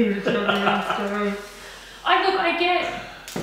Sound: laughs

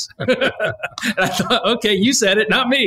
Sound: laughs

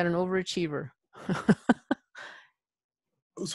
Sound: laughs

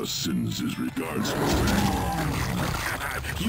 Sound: laughs; slicing noises

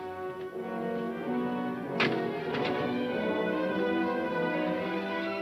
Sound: door thudding

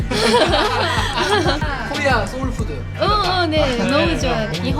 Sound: laughs

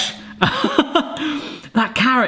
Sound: laughing

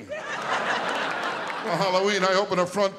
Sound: audience laughing

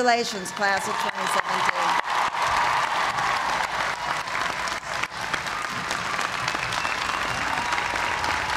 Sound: cheers and applause

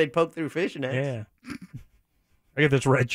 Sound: snickering

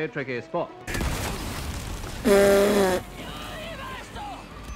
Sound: clay pigeon bursts

